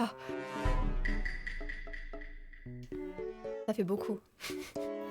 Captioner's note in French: bruitage hautement suspicieux